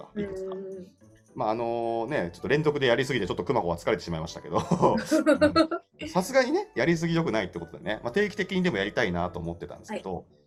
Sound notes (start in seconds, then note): 4.7 laugh